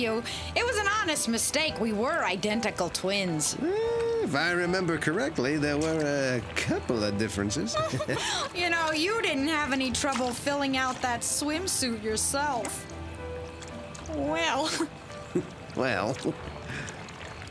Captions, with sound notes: It was an honest mistake. We were identical twins. Mmm... if I remember correctly, there were a couple of differences. ( giggles ) You know, you didn't have any trouble filling out that swimsuit yourself. Well... Well...